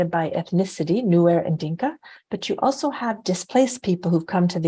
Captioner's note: non-english speech